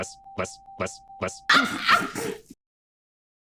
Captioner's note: screaming laugh; sneeze-like laugh again